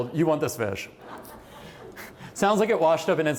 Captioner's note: laughter